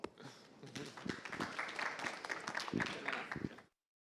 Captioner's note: applause